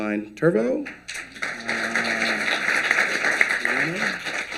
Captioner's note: applause